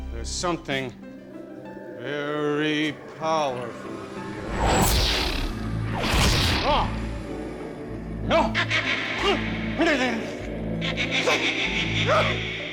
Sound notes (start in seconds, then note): 4.4 zap; 8.3 evil laughter